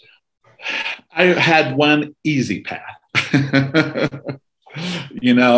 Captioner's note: laughs